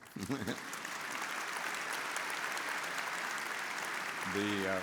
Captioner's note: audience applauds